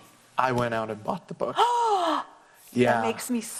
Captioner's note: sighs